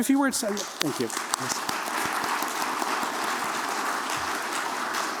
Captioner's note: applause